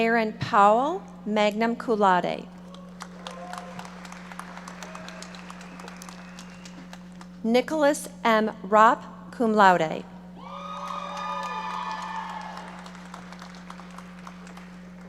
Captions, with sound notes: Aaron Powell, magna cum laude. (audience applauding) Nicholas M. Raupp, cum laude. (audience cheering and applauding)